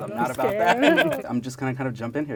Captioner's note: laughing